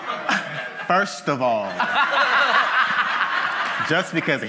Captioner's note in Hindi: हँसी